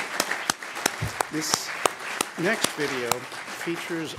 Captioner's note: applause